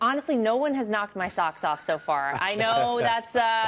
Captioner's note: laughter